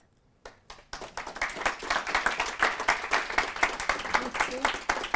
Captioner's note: audience applause